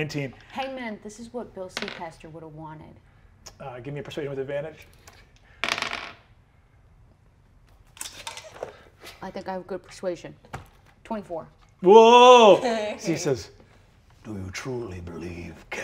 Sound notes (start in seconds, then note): 5.6 dice tap table